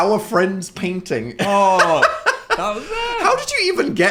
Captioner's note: laughs